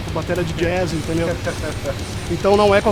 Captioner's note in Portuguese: risos